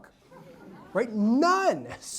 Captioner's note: audience laughs